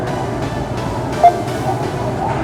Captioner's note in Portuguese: beep